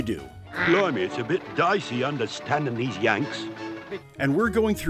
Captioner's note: with a dodgy British accent